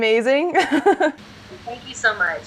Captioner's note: laughs